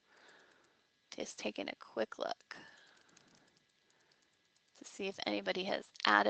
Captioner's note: fast typing